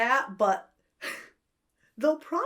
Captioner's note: laughs